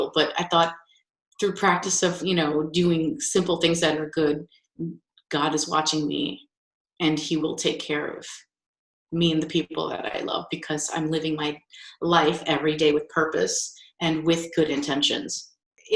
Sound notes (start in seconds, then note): none